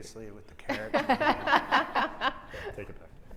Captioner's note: all laughing